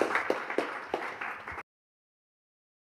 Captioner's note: audience applauding